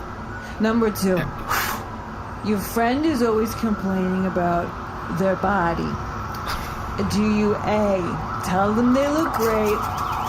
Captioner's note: Maxie puffs out smoke